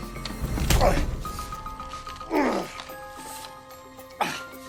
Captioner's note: patient grunts